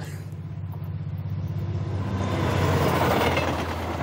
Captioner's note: trains passing